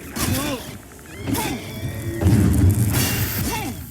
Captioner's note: hero grunting; swords clashing; hero grunting